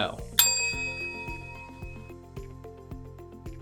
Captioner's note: bell ringing; bright music